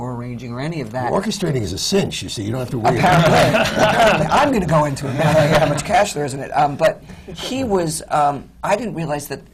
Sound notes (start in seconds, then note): 2.9 laughter